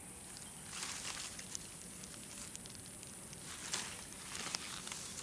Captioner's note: Squeeze rustling